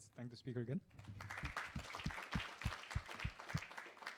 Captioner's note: applause